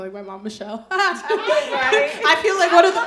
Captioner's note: chuckles